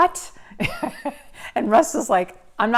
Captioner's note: laughs